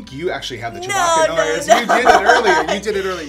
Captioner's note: laughing